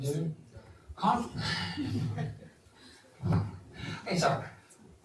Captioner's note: laughter